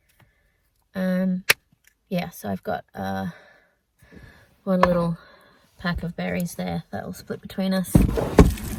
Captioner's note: click; thud and sliding